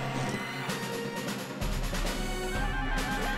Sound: blowing a raspberry

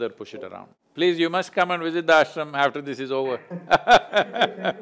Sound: laughter

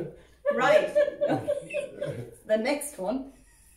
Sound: laughing

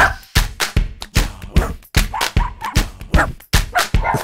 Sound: dogs Barking - Dog Barks

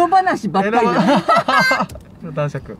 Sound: laughs

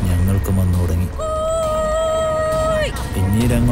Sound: cheering

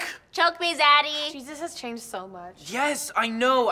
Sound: sigh

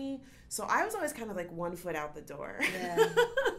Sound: laughs

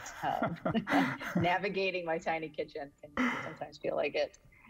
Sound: everyone laughing

